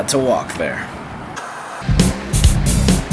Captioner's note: upbeat percussion music; white noise scratching